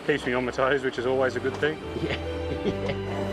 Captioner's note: laughs